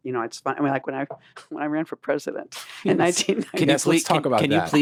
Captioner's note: laughs